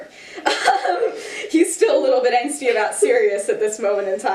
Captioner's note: laughter